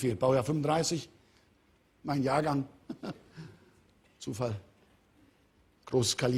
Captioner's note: Ironisches Auflachen